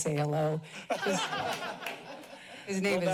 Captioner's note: laughter